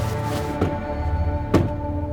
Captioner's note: curtains stop; door slam